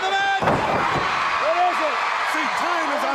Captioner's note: crowd cheering